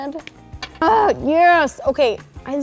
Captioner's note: groaning